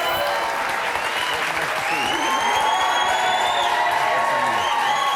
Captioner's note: audience cheering